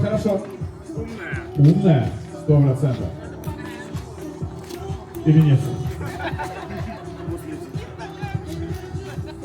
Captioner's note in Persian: خنده